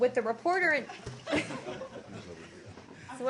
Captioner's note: laughter